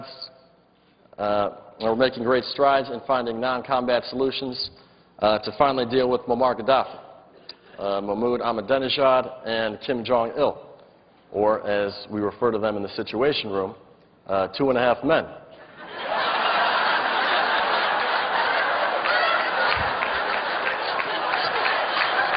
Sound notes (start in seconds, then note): 10.1 laughter; 22.1 laughter